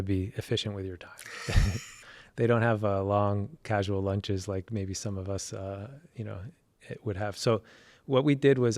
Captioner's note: laugh